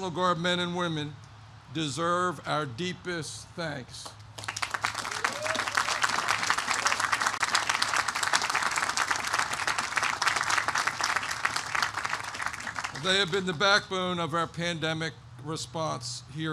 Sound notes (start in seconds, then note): 4.2 applause